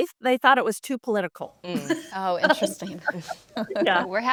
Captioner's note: laughs